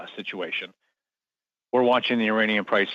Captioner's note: speaking French